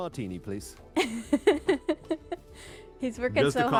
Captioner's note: laughs